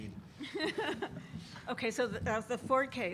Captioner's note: laughs